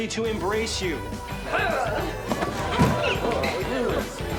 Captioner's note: grunts